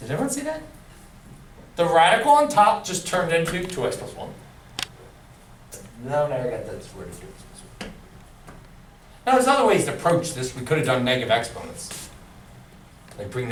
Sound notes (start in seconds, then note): none